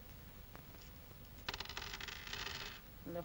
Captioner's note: rubies jingle down on table